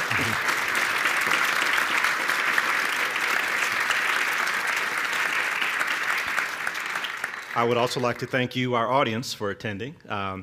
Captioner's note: laughter and applause